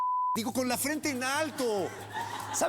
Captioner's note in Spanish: risas